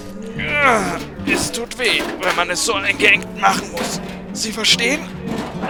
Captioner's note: groan